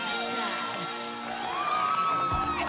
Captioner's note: song ends; cheering and applauding